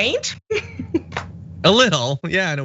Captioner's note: laugh